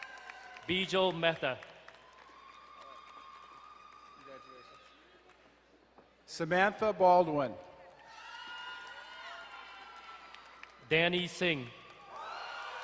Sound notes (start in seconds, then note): 0.0 crowd cheering and applauding; 2.0 crowd cheering and applauding; 7.9 crowd cheering and applauding